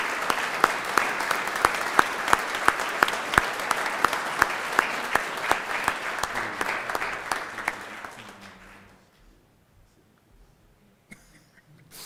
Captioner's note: applause